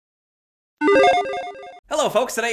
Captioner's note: graphic dings